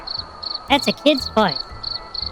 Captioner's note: quietly, the humor gone for a moment